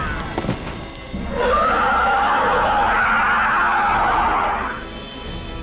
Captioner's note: screams